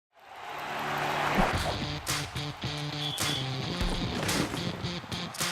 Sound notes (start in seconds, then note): 0.1 stadium audience cheering; 1.6 rock music